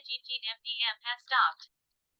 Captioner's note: phone talking